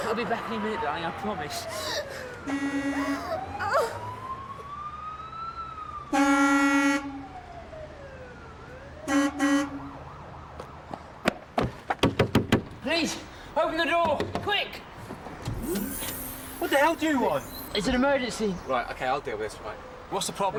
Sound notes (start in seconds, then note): 2.2 sirens wailing; 2.4 horn honking; 12.0 pounding on window